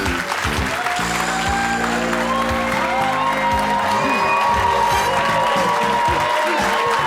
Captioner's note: audience applause; dramatic jazzy music